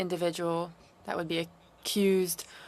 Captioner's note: speaking French